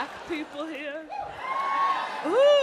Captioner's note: audience whoops